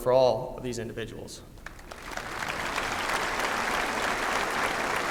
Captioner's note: applause